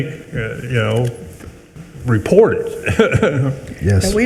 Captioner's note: chuckles